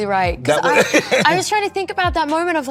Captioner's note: Colman laughs